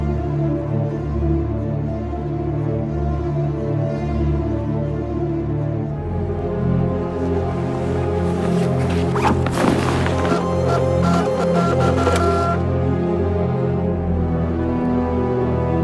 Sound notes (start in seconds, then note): 4.1 suspenseful music; 10.4 printer buzzing